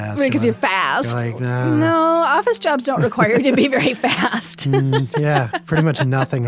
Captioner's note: laughs